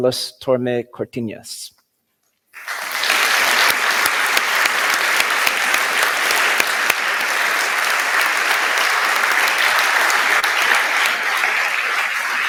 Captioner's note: applause